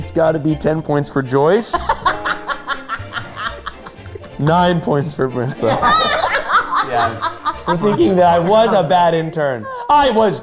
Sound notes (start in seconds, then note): 1.7 laughing